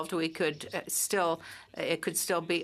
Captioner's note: speaking French